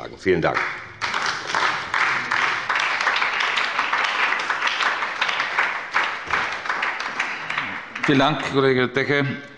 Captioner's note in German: Beifall bei der SPD